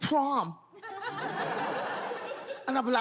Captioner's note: audience laughs